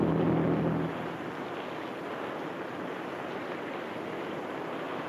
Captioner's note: waves crash